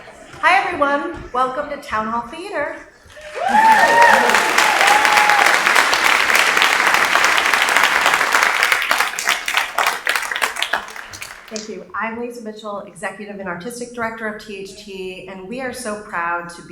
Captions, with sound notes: Hi everyone, welcome to Town Hall Theater. (audience applauding) Thank you, I'm Lise Mitchell, Executive and Artistic Director of THT, and we are so proud to